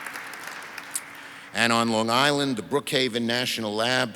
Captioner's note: audience applauds